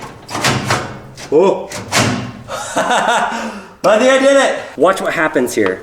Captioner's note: laughing